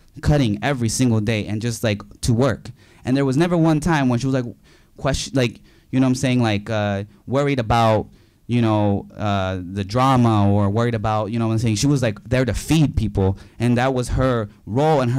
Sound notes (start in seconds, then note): none